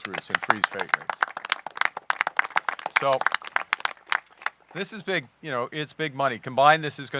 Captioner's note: applause